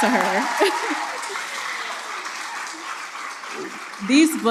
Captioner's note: applause